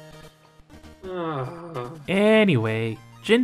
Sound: disgusted sigh

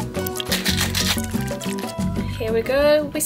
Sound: ice shaking

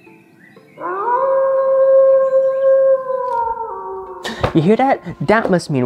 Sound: wolf Howls

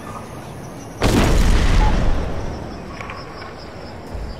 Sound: pavilion explodes

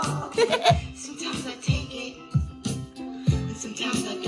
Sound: laughs

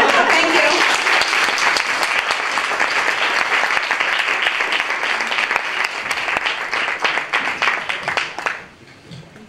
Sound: applause

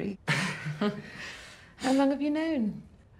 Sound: both chuckle

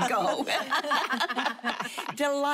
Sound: laughter

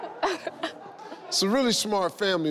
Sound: nervously laughs

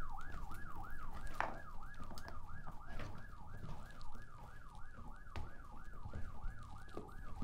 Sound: siren sound reduced

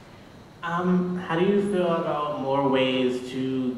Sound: voiceover

